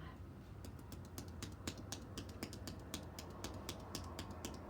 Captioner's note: hands tapping